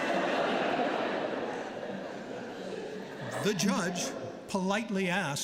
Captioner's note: laughter